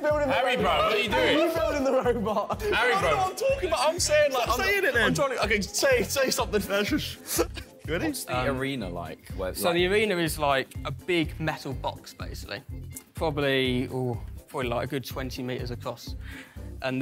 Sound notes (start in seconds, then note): 7.2 laughs